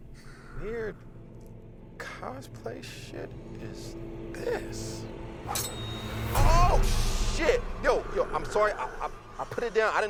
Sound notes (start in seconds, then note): 5.4 meathook whooshing and clanging